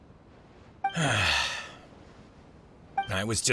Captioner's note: sigh